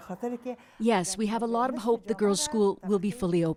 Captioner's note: speaking foreign language